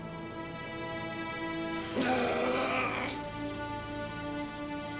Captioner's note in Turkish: Bağırma sesi